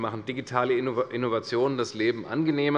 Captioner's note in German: none